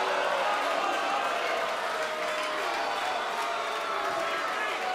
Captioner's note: cheers & boos